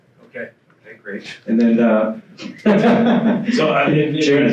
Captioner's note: laughs